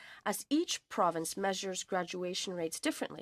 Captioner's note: speaking French